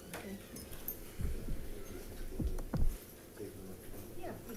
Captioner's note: chatters faintly